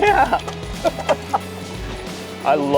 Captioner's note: laughing